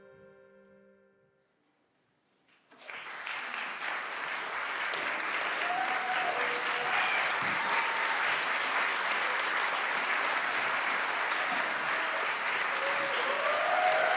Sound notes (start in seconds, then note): 2.7 ovations